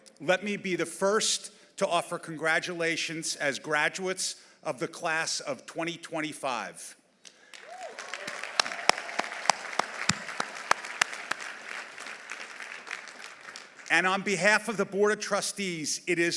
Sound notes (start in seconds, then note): 7.4 audience applauding; 7.6 audience cheering